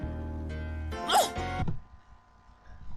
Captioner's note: grunts